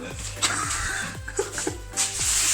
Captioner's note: laughing